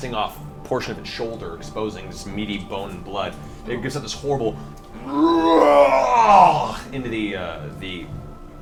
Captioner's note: roars